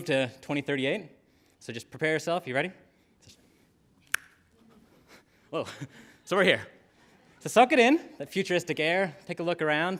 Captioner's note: snaps; laughter